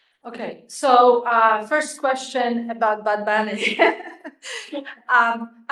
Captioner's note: chuckles